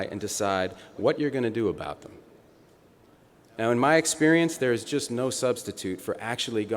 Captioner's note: none